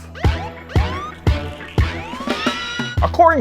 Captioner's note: siren wailing